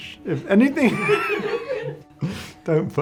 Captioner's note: laughs